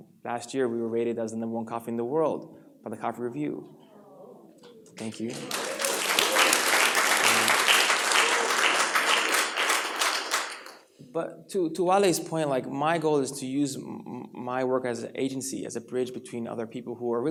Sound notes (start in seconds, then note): 5.0 applause